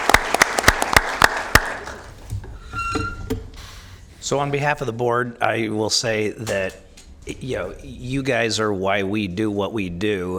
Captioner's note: applause